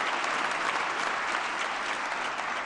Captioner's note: applause